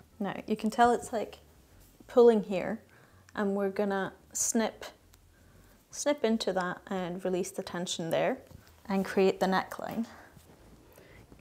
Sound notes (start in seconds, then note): none